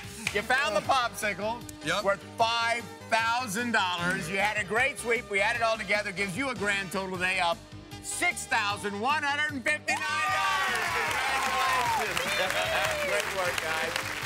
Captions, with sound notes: You found the Popsicles-- -Yup. -Worth $5000. You had a great seep, we add it all together, gives you a grand total today of $6,159! Congratulations! (cheering) (chuckles) Great work, guys.